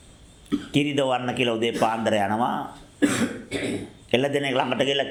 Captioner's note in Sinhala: කැස්ස; උගුර කෑරීම